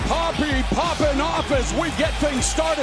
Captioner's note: crowd chattering